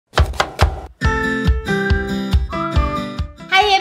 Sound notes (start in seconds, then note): 0.1 knife chopping; 0.1 upbeat music